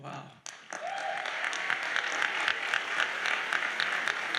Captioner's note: audience applauds